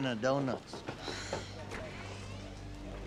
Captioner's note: sighs